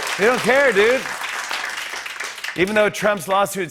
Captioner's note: cheers and applause